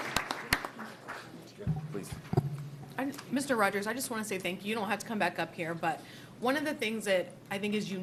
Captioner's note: applause